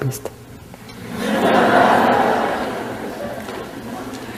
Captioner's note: laughter